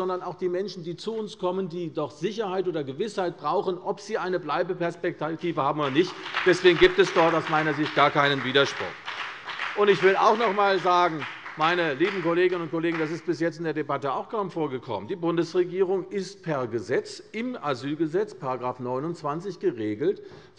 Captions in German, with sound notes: sondern auch die Menschen, die zu uns kommen und doch die Gewissheit brauchen, ob sie eine Bleibeperspektive haben oder nicht. Deswegen gibt es aus meiner Sicht gar keinen Widerspruch. (Beifall bei der CDU) Ich will auch noch einmal sagen, meine lieben Kolleginnen und Kollegen, denn das ist bis jetzt in dieser Debatte kaum vorgekommen: Die Bundesregierung ist per Gesetz, das ist in § 29 Asylgesetz geregelt,